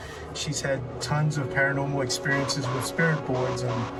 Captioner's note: none